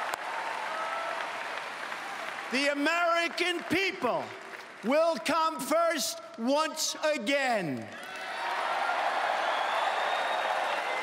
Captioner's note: applause